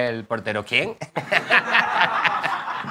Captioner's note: laughs